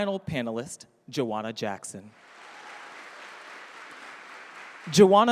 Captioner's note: audience applauding